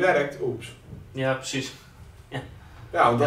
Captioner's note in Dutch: lacht